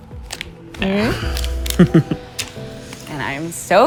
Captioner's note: chuckles